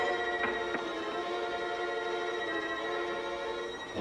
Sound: rocks clanking

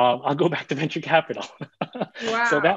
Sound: laughs

